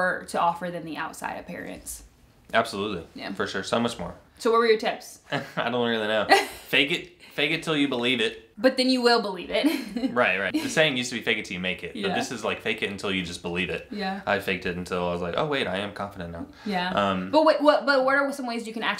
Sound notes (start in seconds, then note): 6.3 laughs